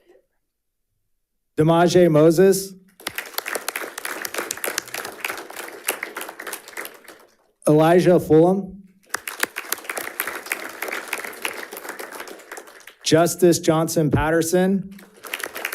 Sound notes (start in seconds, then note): 3.0 audience applauding; 9.0 audience applauding